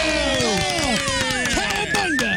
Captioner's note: cheering